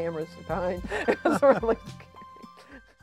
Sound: chuckling

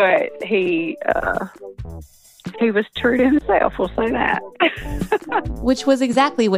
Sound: laughs; laughs

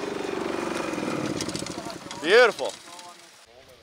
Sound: engine stops

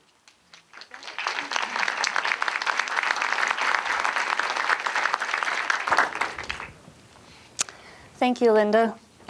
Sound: applause

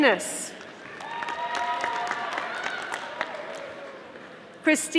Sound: audience applauding

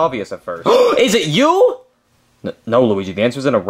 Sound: gasps

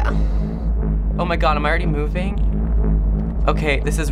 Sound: platform hums

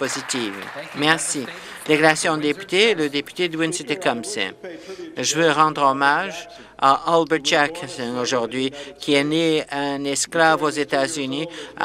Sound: some Applause

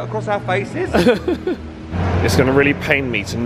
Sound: laughs

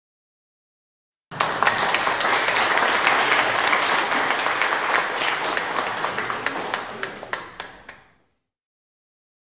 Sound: sound of applause

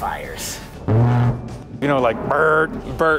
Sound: Warthog firing

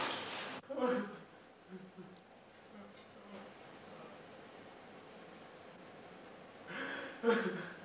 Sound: Ian cries

